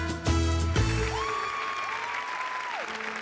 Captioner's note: audience cheering